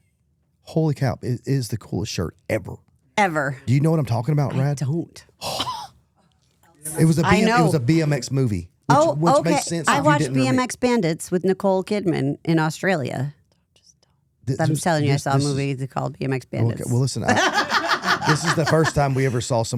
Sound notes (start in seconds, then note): 7.0 laughs